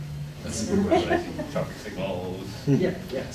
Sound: laughing

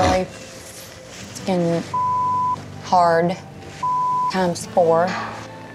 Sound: beep

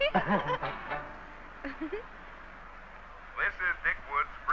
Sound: giggling

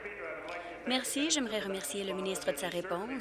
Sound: applause

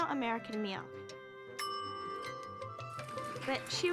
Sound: timer dings

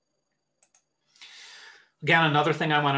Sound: mouse clicks

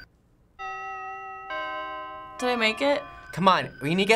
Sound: in game: clock chimes

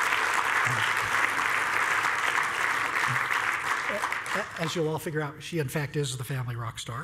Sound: applause

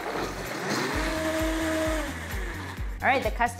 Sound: blender whirring

